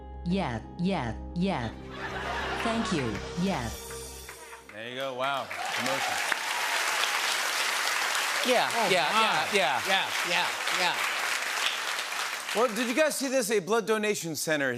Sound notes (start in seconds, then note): 1.9 laughter; 6.0 cheers and applause